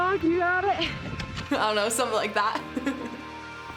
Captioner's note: laughing